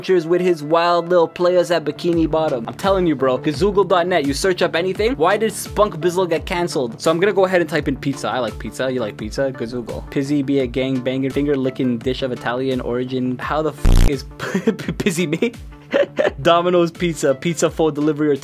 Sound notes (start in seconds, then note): 13.8 beep